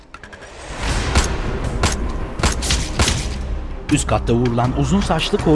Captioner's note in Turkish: Silah sesleri